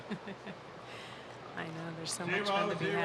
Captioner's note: laughing